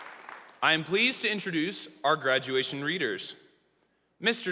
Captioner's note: applause